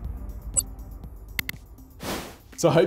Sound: graphic beeps; button clicks; screen wipe whooshes

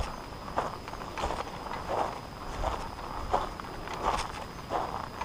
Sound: footsteps thudding

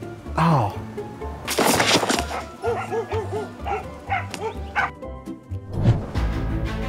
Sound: head thuds; dogs barking; dramatic orchestral music

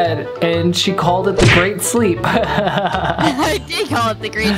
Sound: laughs

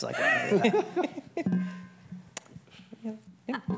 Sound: group laughs

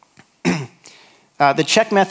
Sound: clears throat

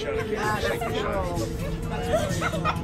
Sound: laughing

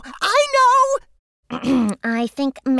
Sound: clears throat

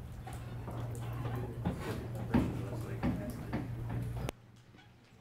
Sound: students chattering

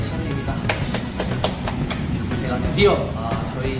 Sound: claps

